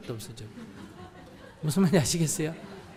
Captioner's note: audience Laughter